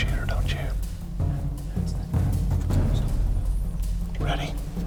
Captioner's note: whispering